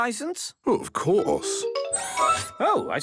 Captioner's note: mechanical arm whirring